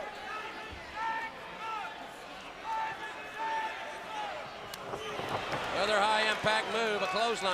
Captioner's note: crowd chatter